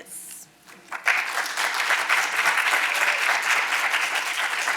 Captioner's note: audience applauding